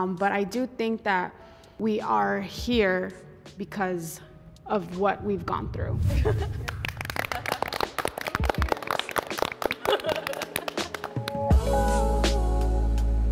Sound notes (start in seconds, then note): 6.6 group applauds; 10.4 soft jazz music